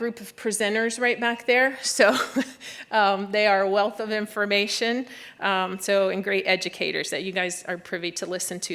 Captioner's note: laughter